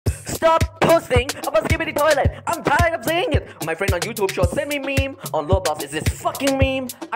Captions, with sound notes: *Inhale* STOP POSTING ABOUT SKIBIDI TOILET I'M TIRED OF SEEING IT MY FRIEND ON YOUTUBE SHORT SENT ME MEMES ON ROBLOX ITS THIS F**KING MEME